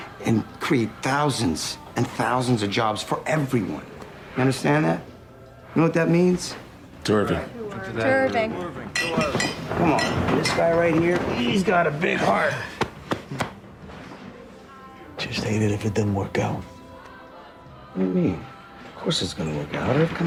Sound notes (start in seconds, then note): 8.9 glasses clinking; 13.7 taps